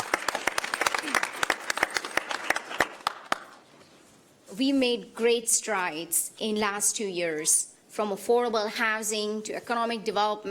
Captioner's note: applause